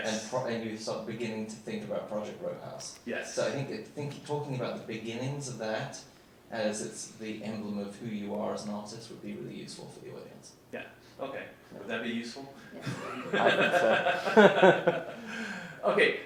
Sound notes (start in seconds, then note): 12.8 laughs